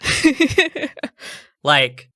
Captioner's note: laughing